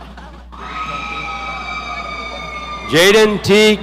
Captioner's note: audience cheering